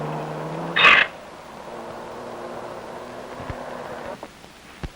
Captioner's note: gate creaks